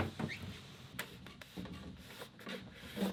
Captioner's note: scraping